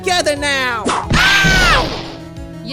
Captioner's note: whip crack!